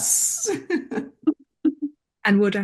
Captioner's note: group laughs